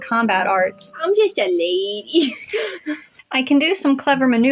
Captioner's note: silly Voice; both Giggle